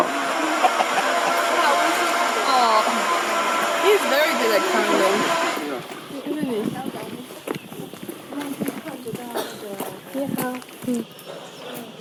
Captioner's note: clucking